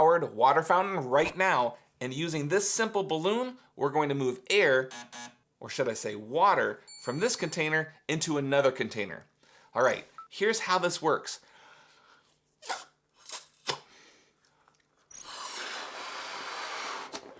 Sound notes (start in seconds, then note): 4.9 buzzer buzzing; 12.8 balloon inflating